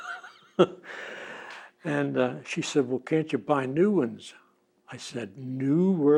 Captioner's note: laughs